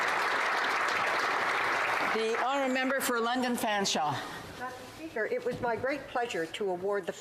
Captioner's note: applause